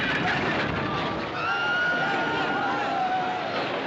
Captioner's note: Grito; Gritos